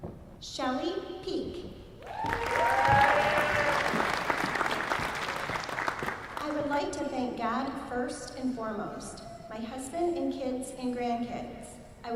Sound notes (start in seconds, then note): 2.0 applause